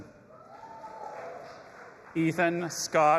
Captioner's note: audience applauding and cheering